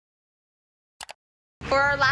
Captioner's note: mouse Click